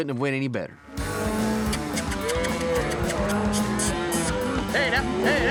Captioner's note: cows moo